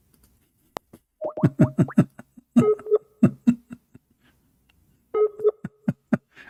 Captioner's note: Ketawa